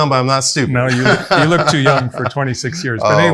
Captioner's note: laughs